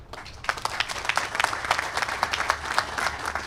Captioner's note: applause